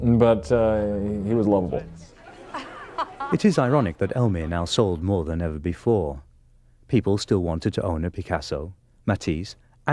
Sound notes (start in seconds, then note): 2.1 people chattering; 2.5 person laughs